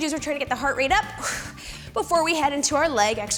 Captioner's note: exhales